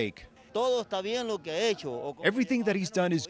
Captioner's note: speaks foreign language